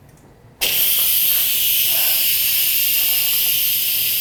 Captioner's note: hissing